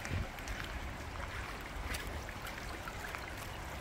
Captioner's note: sound of water flowing